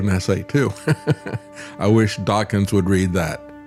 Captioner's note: laughs